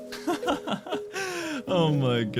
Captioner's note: chuckling